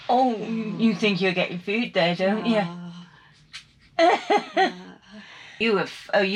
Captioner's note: laughing